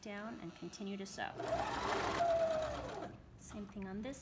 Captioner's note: sewing machine hums